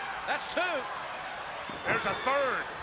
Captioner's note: crowd chatter